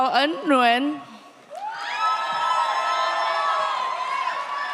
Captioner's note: audience applauds